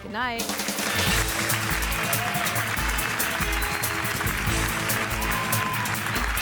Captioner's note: upbeat instrumental music; crowd cheers and applauds